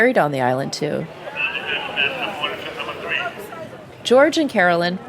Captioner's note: ferry-riders chatting